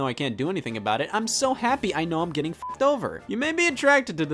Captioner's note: beep